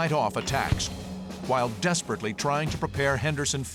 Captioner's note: gunshots